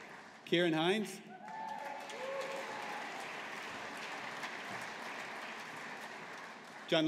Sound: audience applauding

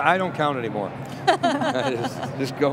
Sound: laughing

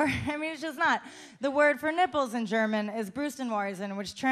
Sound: speaking German

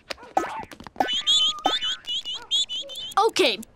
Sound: chirping

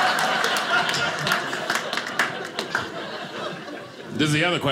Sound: audience laughing

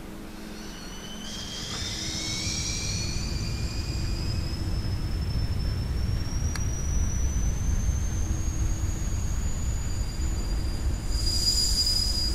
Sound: high pitched noise

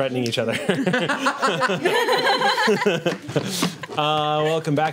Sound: group laughs

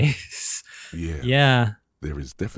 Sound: laughs

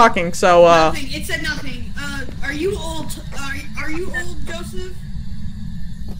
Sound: over Radio

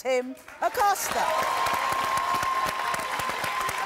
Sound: cheers

